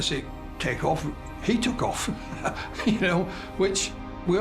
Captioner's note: laughs